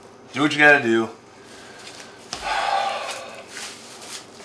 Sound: sighs

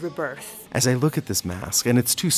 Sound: voiceover

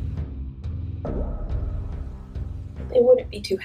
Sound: water drip sound effect

